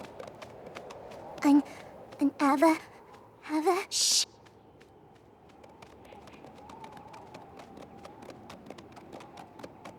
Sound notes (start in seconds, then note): 4.7 wind howling